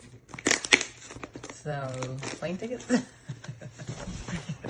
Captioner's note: laughs